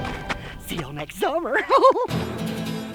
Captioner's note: chuckles